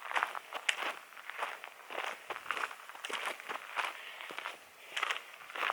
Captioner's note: footsteps in gravel